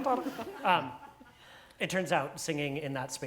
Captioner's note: laugh